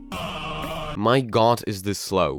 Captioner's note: scream of a thousand air horns